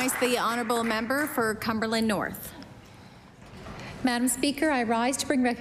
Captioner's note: some Applause